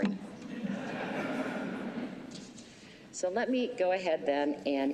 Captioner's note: laughter